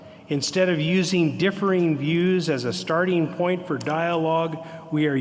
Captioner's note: none